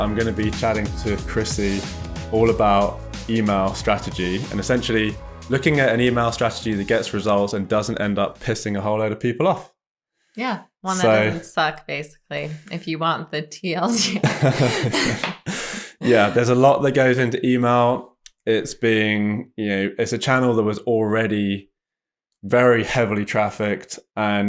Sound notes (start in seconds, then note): 13.9 both laugh